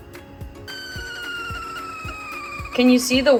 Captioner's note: light upbeat music; kettle whistling